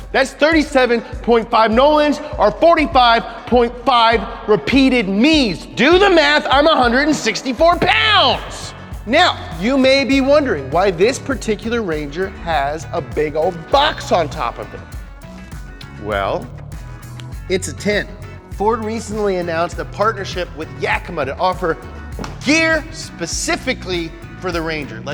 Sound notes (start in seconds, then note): 17.1 snaps fingers